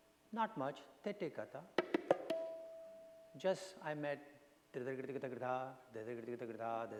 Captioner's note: foreign language